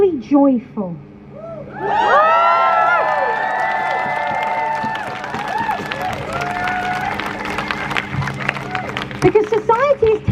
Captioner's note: crowd cheers